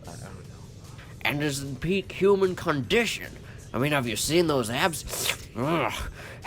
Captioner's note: slurp